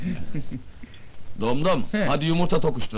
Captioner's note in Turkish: gülme sesleri̇